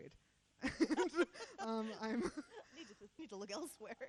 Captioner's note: laughing